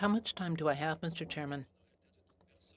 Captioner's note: speaking French